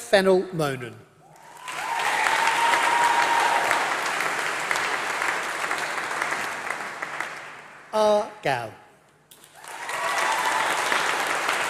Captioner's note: applause